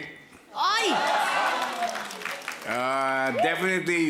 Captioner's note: laughter, applause